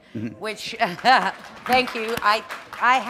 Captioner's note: chuckle